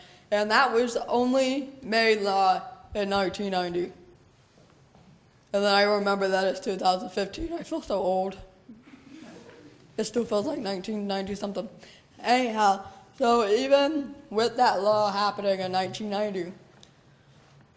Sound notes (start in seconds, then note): 8.8 laughter